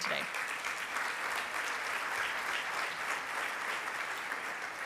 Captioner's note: audience applause